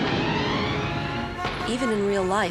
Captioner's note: exploding